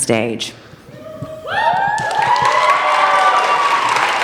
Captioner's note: cheering